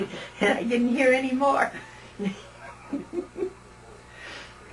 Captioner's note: laughter